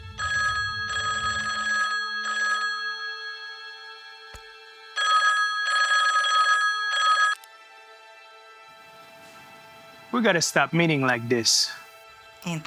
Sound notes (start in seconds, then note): 0.0 dramatic music; 5.0 cellphone ringing; 8.7 dramatic music